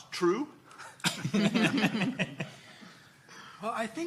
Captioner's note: laughing